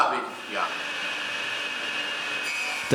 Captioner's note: machine whirring